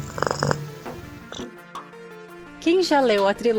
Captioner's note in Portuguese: ronrom